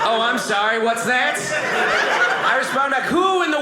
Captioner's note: audience laughing